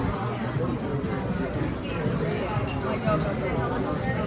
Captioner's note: beep beep